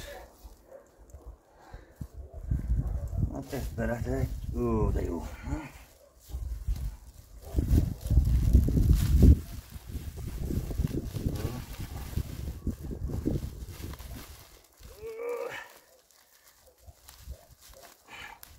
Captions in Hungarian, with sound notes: Hát ezt beletehetj... ...ó, de jó... ...mmm! (Nyögés)